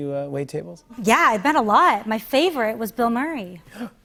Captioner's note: gasps